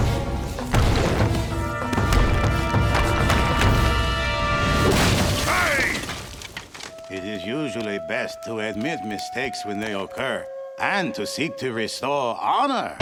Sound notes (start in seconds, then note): none